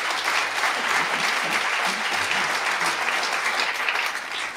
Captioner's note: applause